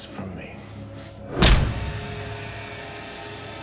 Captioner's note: fist thuds; menacing music